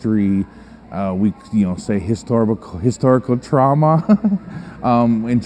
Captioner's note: chuckles